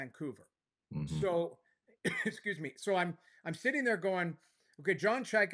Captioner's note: coughs